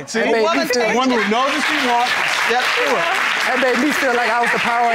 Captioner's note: audience applauding